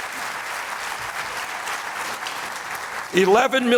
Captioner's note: applause